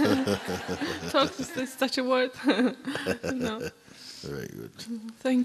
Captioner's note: laughter; chuckles